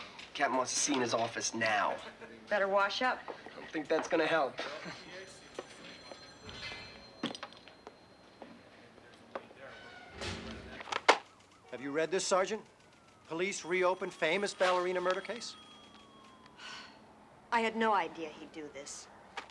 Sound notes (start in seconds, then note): 16.6 sighs